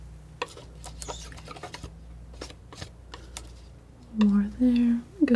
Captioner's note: tapping